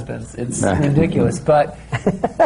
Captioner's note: laughter